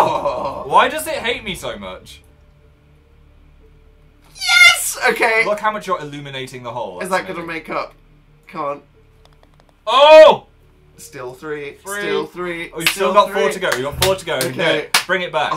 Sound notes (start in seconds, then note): 13.6 claps